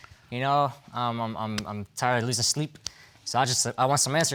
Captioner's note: stammers